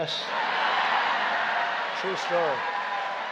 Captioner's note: laughter and applause